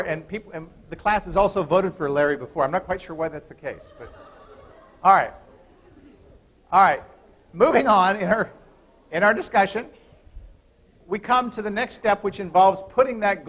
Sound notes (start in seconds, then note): 3.6 laughter